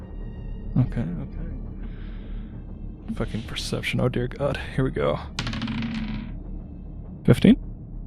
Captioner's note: dice rolls